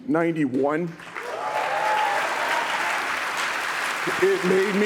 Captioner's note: audience claps